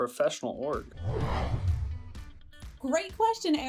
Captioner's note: logo whooshing